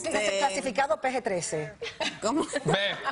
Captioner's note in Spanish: risas